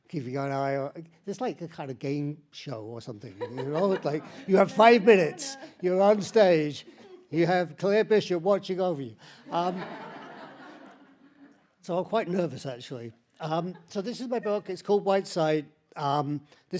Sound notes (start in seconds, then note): 3.4 laughs; 9.4 audience laughs